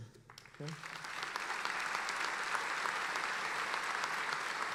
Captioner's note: applauding